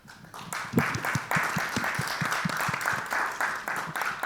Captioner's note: audience applauding